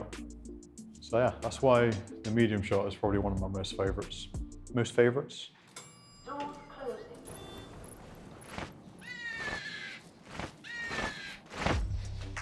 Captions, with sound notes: So yeah, that's why the medium shot is probably one of my most favorites. Most favorites? (Dings) (Bird cawing)